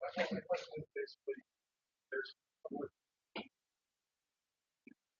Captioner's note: man speaks through warped and choppy audio